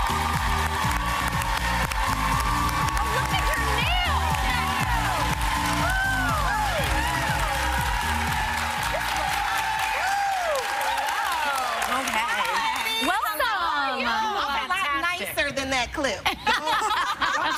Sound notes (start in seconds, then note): 1.8 cheers and applause